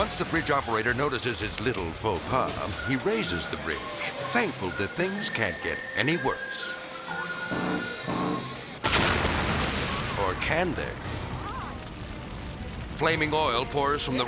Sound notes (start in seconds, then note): 7.7 whimsical music; 8.6 fire crackling; 8.8 explosion pounds